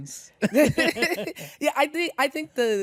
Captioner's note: both laugh